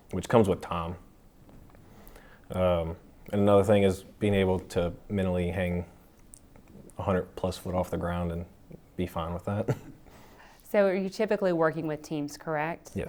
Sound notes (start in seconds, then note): 9.6 chuckling